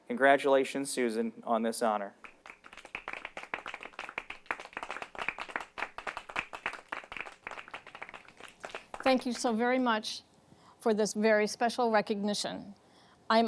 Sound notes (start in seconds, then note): 2.2 audience clapping